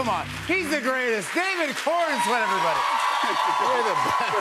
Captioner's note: cheers and applause